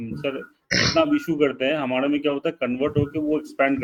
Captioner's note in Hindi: गला साफ़ करने की आवाज़